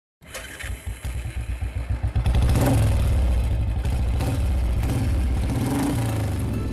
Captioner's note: engine revving